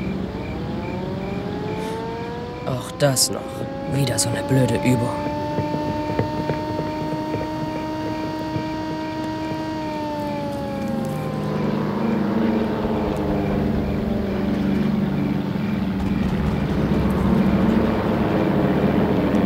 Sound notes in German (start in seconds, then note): 0.6 Sirenenheulen; 11.3 Propellerbrummen; 15.9 Ferne Schüsse